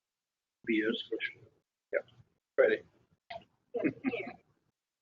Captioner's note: talking on phone